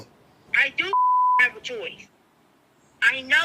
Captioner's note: beep